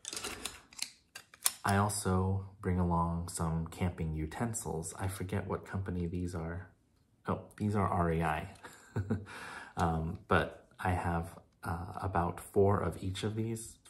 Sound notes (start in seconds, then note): 8.6 chuckle